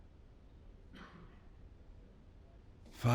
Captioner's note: coughs